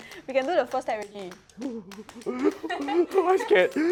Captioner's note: fearful sounds